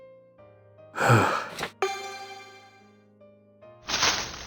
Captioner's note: sigh